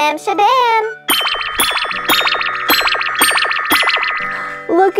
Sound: magical popping

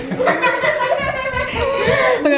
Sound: kids laughing

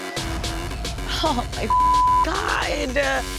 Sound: beep

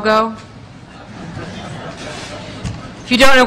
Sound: laughter

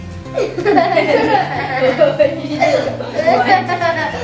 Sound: laughter

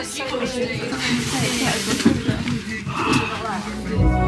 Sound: laughs

